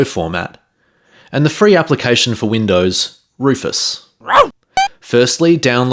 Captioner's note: dog bark sound